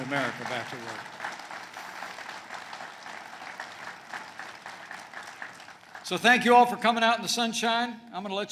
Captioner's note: applause